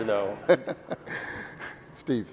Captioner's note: laughing